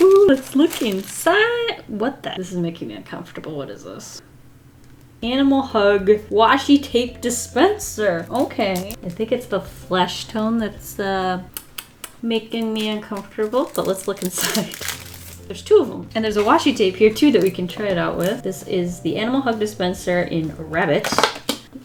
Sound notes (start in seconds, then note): 11.5 kisses